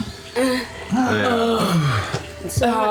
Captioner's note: groans